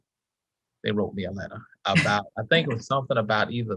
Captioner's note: chuckles